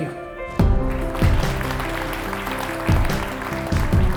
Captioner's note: clapping